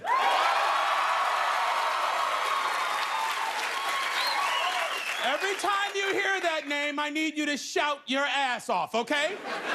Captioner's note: cheers and applause